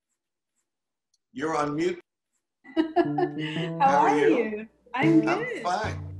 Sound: laughs

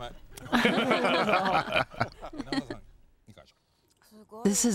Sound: laughing

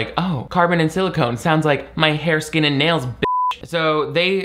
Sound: beep

